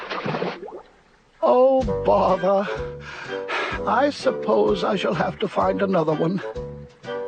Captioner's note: sighs